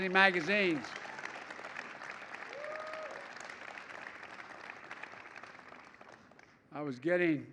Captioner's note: applause